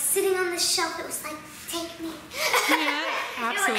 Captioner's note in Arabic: ضحك